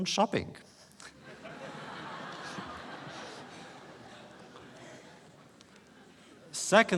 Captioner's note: laughter